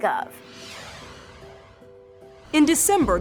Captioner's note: screen whooshing